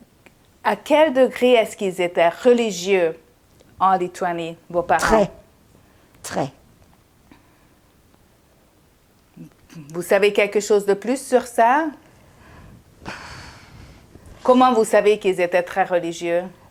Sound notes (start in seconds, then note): 13.0 sighing